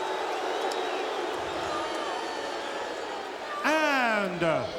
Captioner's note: audience booing